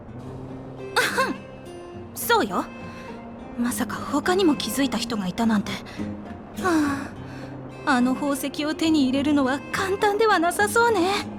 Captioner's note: sigh